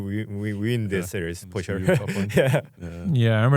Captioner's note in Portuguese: risos